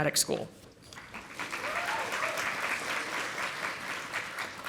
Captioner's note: audience applauding